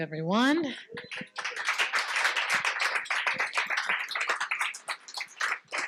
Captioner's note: participants clapping